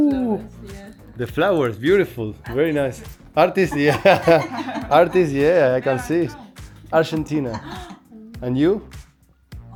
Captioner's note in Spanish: risas